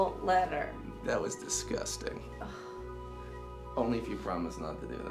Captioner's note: Ashley scoffs